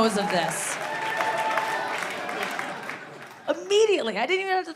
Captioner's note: audience applauding